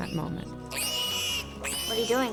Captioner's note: yelps